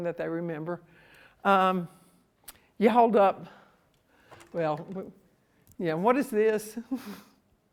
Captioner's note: laughs